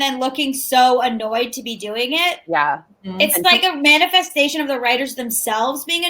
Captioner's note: none